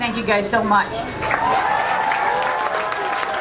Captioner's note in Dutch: applaus